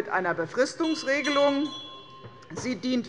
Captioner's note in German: Anhaltende Unruhe - Glockenzeichen des Präsidenten